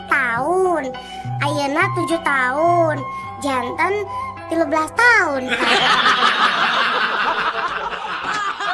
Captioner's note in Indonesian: tertawa